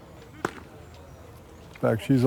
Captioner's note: bat striking